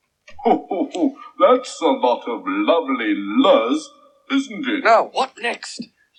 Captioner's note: laughs